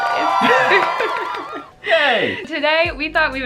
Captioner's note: applause